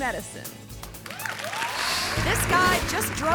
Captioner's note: audience cheering and clapping